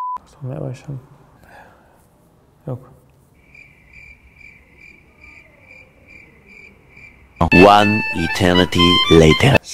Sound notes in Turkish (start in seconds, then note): 3.3 Cırcır sesi